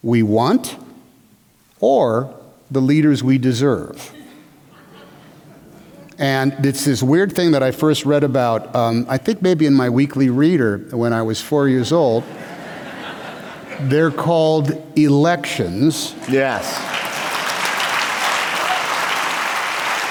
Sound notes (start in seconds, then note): 16.2 applause